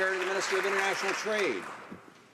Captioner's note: some Applause